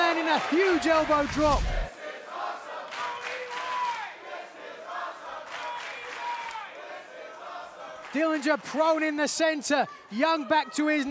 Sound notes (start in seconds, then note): 3.3 fans chanting